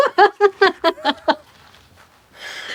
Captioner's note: laughing